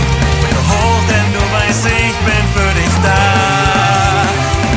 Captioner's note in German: Oohoohooh